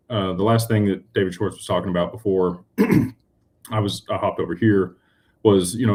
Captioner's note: clears throat